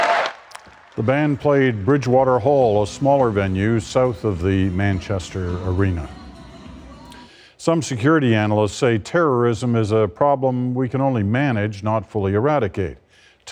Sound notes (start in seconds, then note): 3.3 cheers and Applause